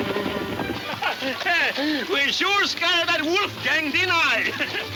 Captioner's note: laughing